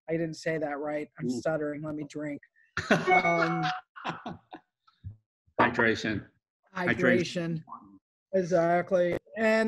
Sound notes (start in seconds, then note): 2.8 laughs